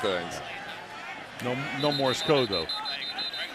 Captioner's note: whistle